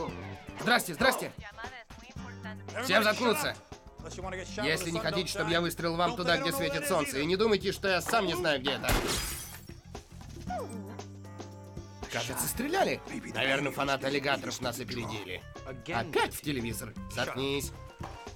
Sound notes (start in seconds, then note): 8.8 gunshot, glass shatters; 10.4 whimpers